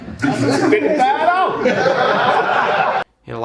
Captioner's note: audience laughing